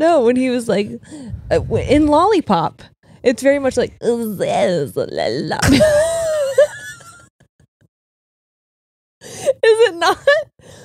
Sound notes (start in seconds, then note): 5.7 both laughing